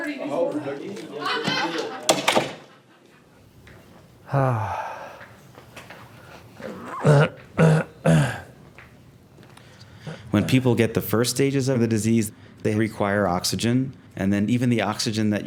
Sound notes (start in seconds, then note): 5.4 sighs; 8.7 clears throat